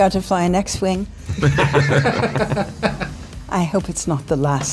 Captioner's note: laughing